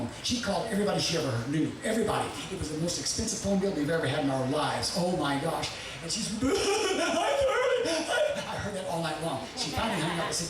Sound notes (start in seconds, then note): 6.6 boo-hooing